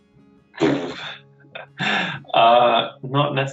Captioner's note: laughs